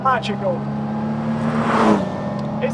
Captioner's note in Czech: řve motor auta